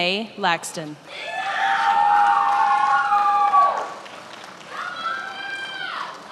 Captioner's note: attendees applauding and cheering